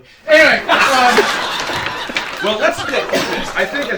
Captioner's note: laughter